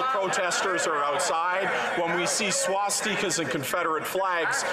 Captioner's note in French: voix de l'interprète